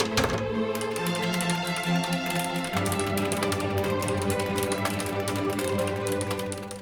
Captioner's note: sound of quick typing with music in background